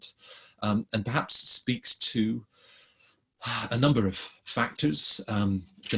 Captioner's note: sighs